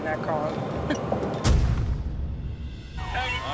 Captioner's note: chuckles